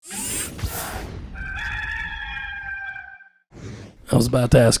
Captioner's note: rooster crows